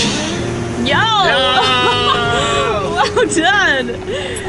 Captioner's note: laughs